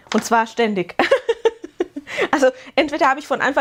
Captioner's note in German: gelächter